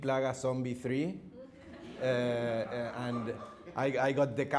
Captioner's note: audience laughing